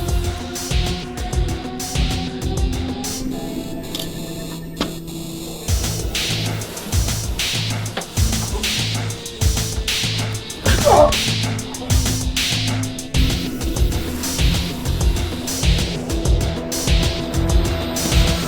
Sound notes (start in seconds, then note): 10.6 grunting